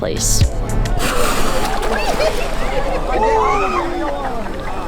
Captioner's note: whale spouts, crowd yells